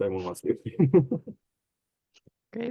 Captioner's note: laughs